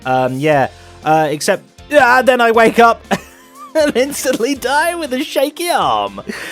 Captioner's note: laughs